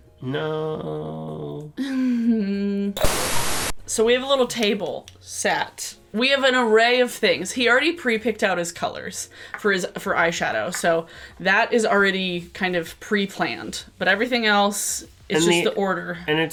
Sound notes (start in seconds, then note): 1.8 audible sigh; 3.0 static buzzes